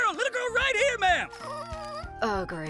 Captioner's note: Molly squeaks